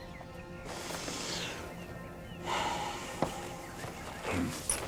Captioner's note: Bill sighs